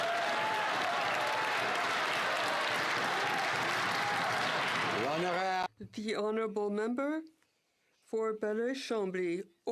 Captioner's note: some Applause